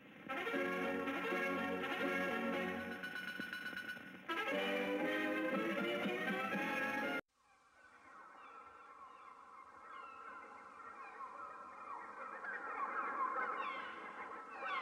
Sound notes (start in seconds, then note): 0.3 cartoon music playing; 7.9 seagulls cawing